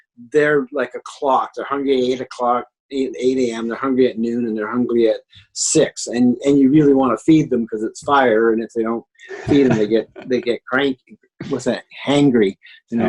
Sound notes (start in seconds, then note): 9.3 laughs